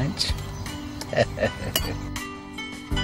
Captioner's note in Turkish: Gülüyor